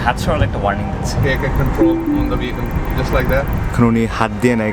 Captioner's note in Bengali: সতর্কতার শব্দ